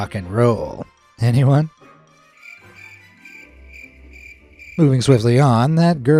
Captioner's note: crickets chirping